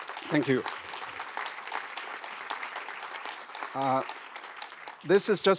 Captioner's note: applause